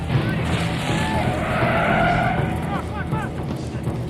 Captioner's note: tires screeching; engine roaring